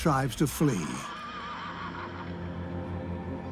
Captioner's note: horse neighing